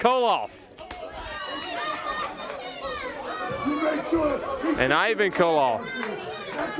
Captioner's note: crowd chatter